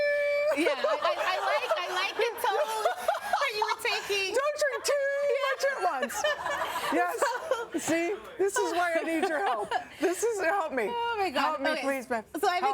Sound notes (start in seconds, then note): 0.5 laughter; 9.1 laughter